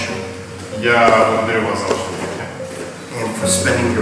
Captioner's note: speaking in a foreign language